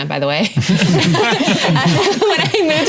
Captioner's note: laughing